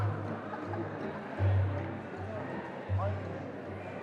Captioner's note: guests chattering